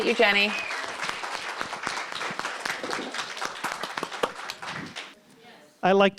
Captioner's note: applause continues